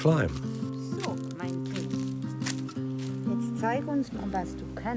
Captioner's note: speaks in foreign language